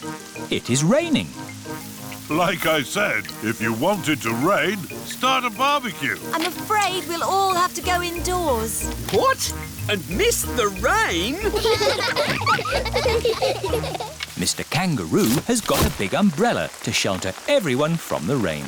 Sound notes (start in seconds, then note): 11.1 all laughing